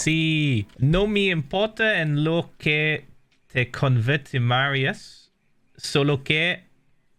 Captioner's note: in Spanish; text-to-speech; in Spanish